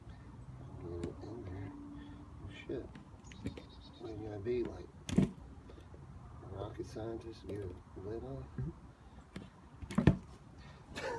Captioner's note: laughs